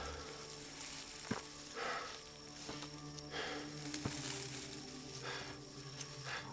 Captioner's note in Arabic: جاستن يلهث